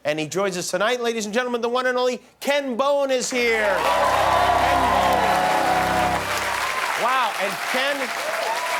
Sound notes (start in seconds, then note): 3.4 cheers and applause